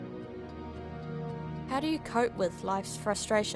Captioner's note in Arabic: none